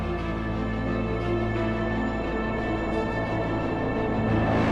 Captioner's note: ship engine humming